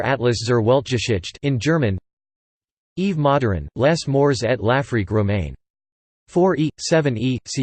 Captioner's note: in German